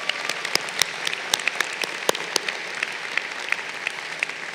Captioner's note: crowd applauding